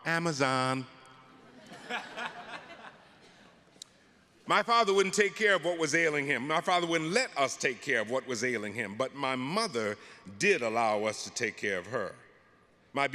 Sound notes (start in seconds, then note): 1.4 audience laughing